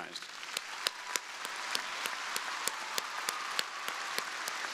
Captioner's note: crowd applauding